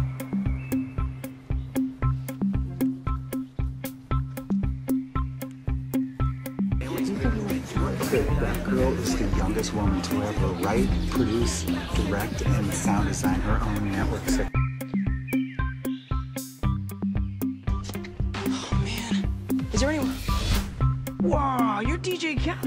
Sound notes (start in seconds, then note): 6.8 crowd Noise